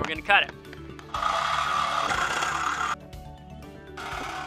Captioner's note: construction noise